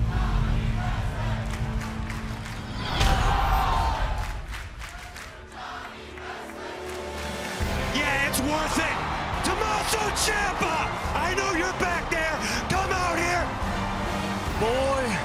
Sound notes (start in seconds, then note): 0.7 crowd cheering